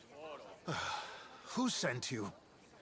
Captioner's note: sigh